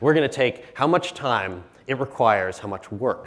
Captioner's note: none